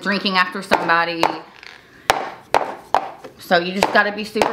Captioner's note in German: Tasse klopft auf den Tisch